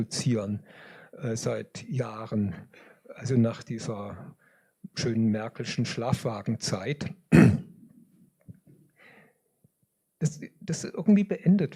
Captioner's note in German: räuspern